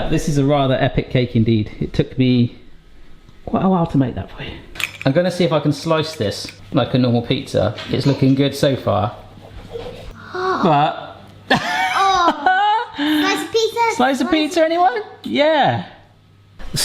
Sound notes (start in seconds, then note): 10.1 gasps; 11.5 laughs